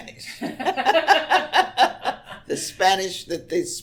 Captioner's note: both laugh